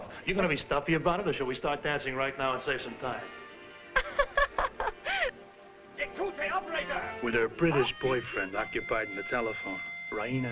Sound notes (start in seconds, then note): 3.9 Raina laughing; 5.9 speaking foreign language